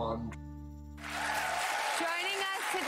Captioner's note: cheers and applause